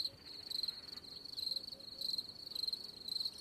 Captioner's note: crickets chirping